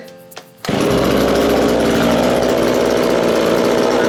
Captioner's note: engine whirring